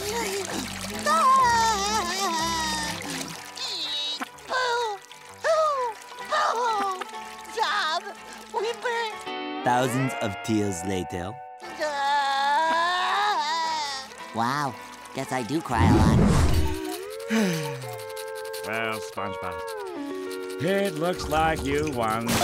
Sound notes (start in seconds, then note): 0.0 crying; 11.7 crying; 16.5 sighing